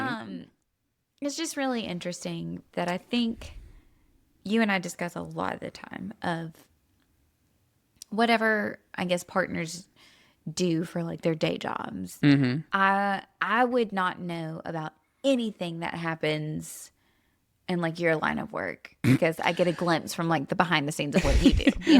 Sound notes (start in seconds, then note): 21.1 laughs